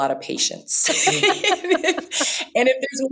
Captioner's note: laughter